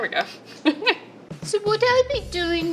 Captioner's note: laughing